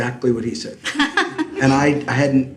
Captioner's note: laughs